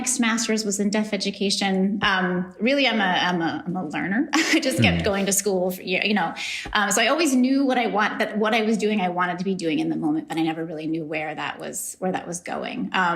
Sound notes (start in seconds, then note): 4.5 laughs